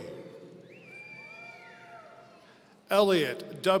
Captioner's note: audience cheering